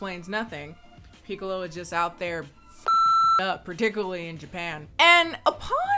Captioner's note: beeps